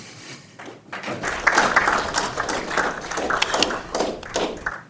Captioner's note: audience applauding